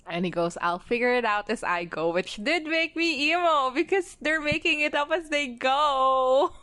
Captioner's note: laughs